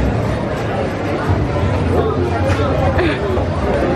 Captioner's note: laughing